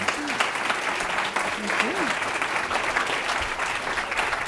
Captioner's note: applause